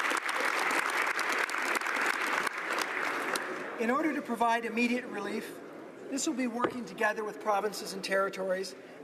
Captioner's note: applause